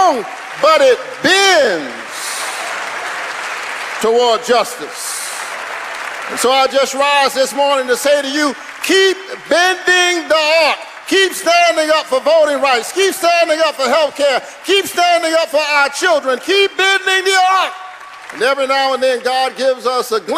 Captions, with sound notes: FIVE TIMES, I NOW SIT IN HIS SEAT. [ CHEERS AND APPLAUSE ] THE UNIVERSE IS LONG BUT IT BENDS. BENDS TOWARD JUSTICE.